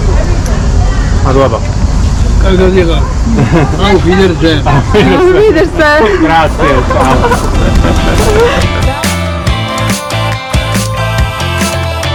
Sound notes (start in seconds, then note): 6.5 laughing; 8.2 upbeat music